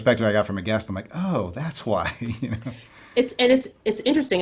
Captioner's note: laughs